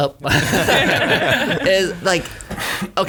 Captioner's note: laughing